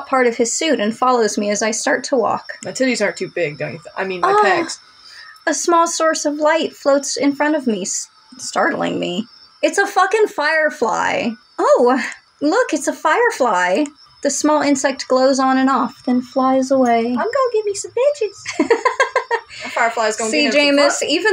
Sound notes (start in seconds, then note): 17.1 high-Pitched; 18.4 laugh